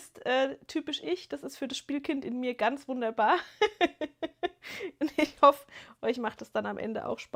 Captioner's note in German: gelächter